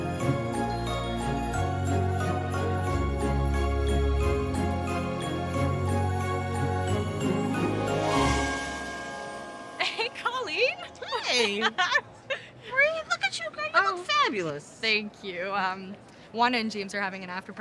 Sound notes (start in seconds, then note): 5.4 jingling continues; 11.0 laughs